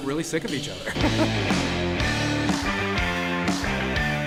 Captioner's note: laughs